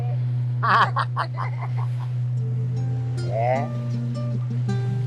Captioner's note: laughter